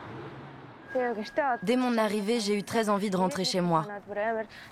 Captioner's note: foreign spoken audio